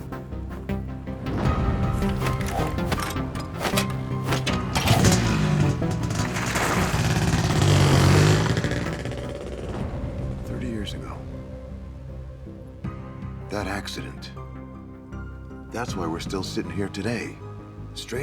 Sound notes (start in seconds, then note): 0.2 dramatic music continues; 5.7 motorcycle rumbles